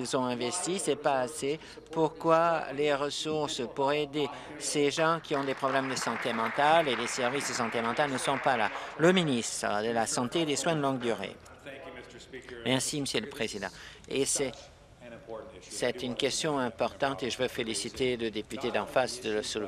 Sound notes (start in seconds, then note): 8.8 applause